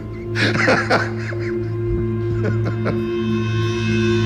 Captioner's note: laughing